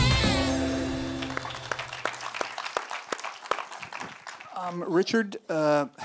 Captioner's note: audience applause